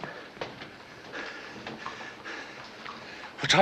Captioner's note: panting